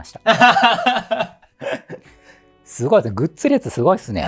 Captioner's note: laughing